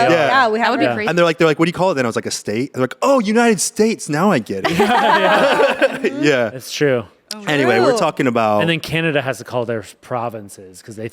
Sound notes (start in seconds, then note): 4.6 everyone laughs